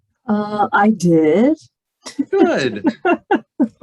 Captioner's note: laughs